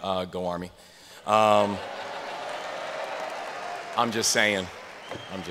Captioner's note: laughter